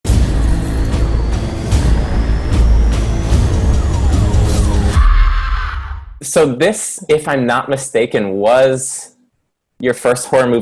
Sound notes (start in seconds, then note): 0.0 exciting music; 4.9 scream